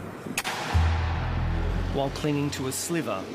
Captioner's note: cannon booms